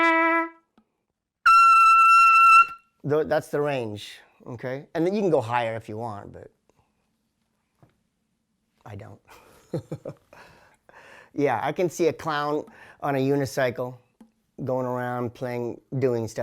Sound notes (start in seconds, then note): 1.4 playing bugle; 9.9 laughing